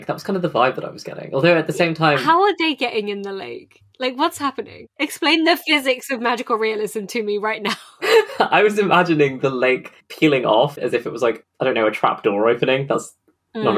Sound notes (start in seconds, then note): 7.6 laughing